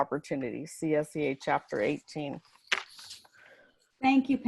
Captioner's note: paper rustling